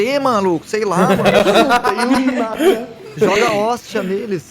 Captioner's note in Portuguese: risos